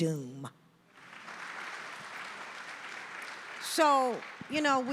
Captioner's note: audience applauding